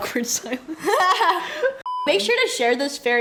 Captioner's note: laughs